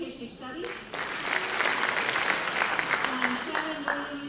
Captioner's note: applause